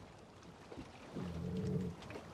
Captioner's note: chien grogne